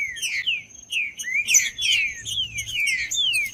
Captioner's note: trinca ferro cantando